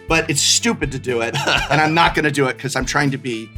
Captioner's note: laughs